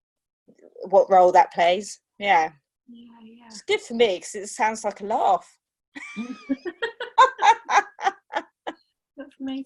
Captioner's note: laughter